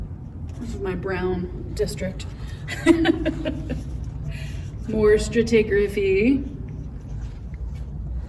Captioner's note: laughs